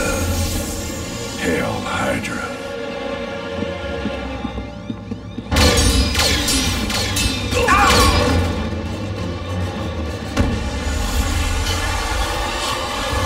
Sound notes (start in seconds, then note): 6.5 blasting; 7.5 wincing